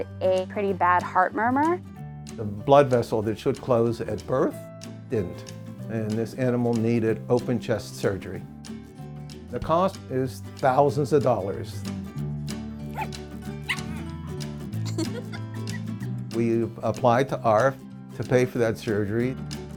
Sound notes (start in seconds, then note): 13.6 dog barking; 14.8 laughing